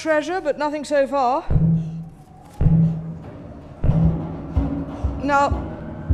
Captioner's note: bangs and wind whistling loudly